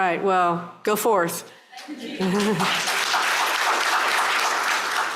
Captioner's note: applause